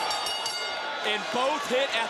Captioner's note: bell rings